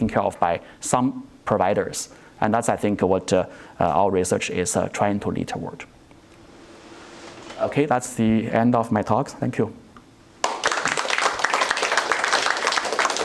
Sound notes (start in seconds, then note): 10.4 applause